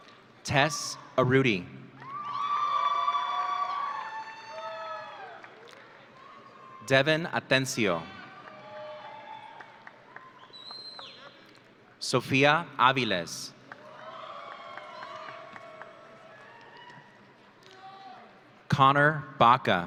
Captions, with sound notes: Tess Arruti. (audience cheering) Devan Atencio. (audience cheering) Sofia Aviles. (audience cheering) Connor Baca.